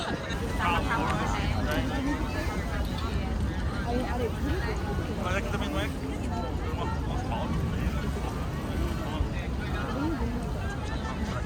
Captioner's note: fireworks